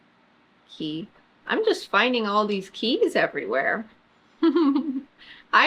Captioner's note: laughs